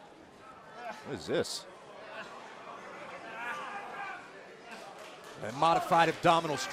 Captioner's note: crowd chatter